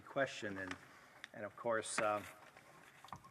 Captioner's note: speaking French